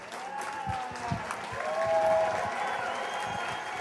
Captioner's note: cheers and applause